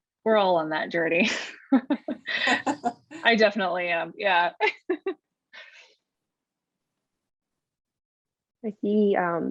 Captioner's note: laughter